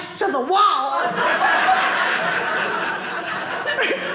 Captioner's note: audience laughing